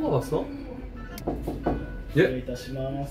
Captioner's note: Knock Knock